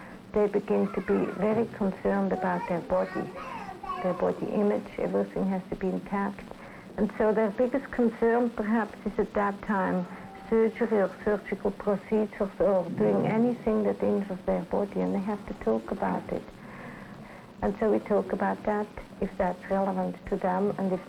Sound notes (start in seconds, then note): 3.3 children's voices in background